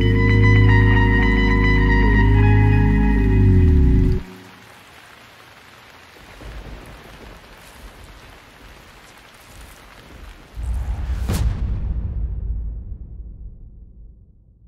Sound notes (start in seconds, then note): 4.2 raining; 10.6 whoosh sound